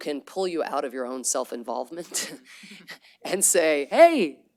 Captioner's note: laughter